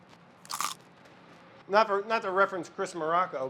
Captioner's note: chip crunches